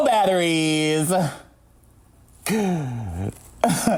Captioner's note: laughs